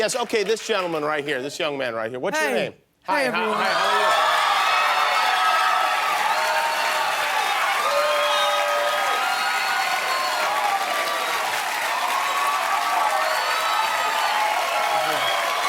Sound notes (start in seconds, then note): 4.2 cheering; 6.7 applause